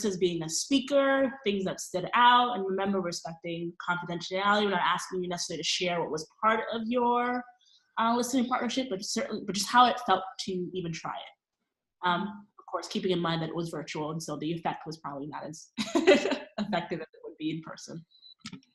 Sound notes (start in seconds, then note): 15.9 laughing